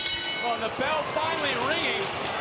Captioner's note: bell ringing